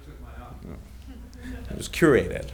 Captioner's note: audience chuckling